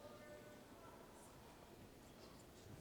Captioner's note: none